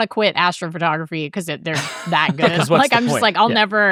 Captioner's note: laughing